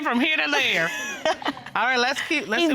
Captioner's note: laughing